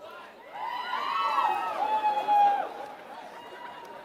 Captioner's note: applause